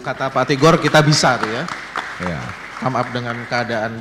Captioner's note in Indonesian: tepuk tangan